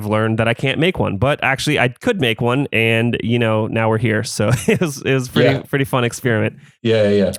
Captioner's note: laughs